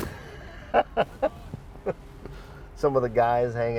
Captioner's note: laughing